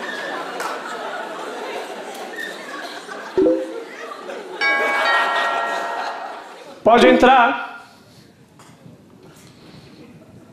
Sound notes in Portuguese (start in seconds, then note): 3.4 sons do Facebook; 4.6 campainha